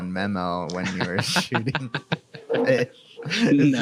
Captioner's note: laughs